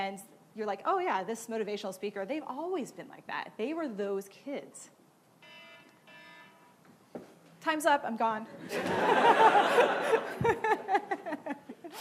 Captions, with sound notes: "This motivational speaker, they've always been like that. "They were those kids." (alarm goes off) Times up, I'm gone! (laughing)